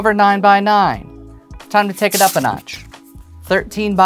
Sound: paper rustling

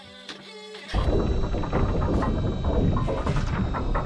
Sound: heavy door opens

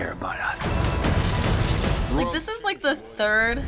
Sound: explosion

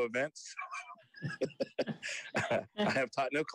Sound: laughs

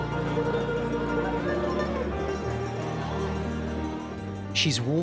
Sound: people chattering

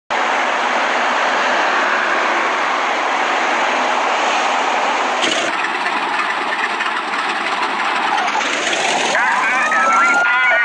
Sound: fire engine

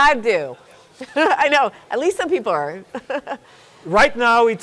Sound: chuckles

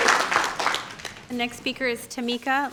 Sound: applause

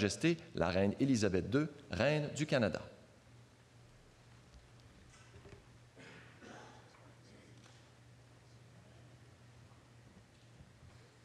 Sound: speaking French

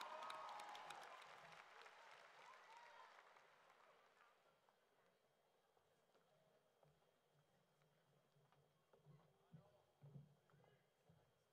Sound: cheering and Applause

